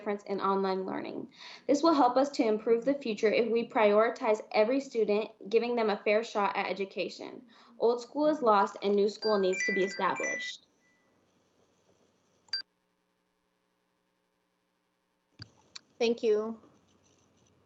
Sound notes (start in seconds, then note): 9.2 chime